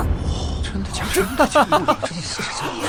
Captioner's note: incredulous laughter